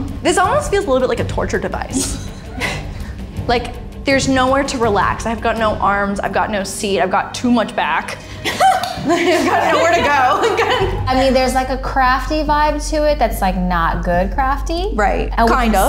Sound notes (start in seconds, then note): 1.9 women laughing; 2.5 suspenseful music